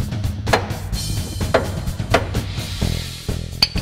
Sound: banging

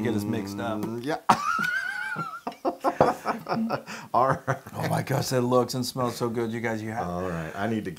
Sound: laugh

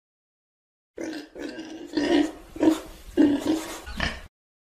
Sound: pig oinking

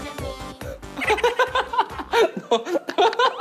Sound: laughing

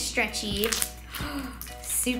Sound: sploshing; gasping

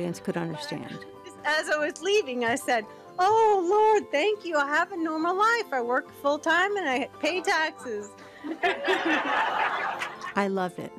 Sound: audience laughs

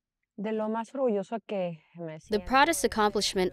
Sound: Governor Pavlovich speaking in foreign language

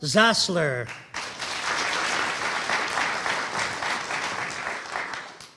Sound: audience applauding

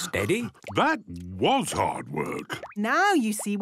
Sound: panting

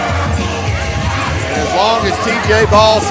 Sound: crowd yelling and booing

